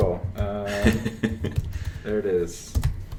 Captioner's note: laughs